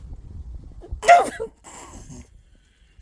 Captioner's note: gasps